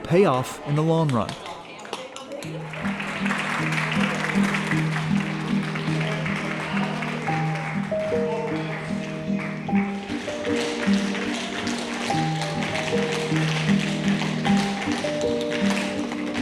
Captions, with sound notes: will pay off in the long run. [crowd clapping] [gentle music] [shoes tapping]